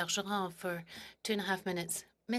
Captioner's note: speaking French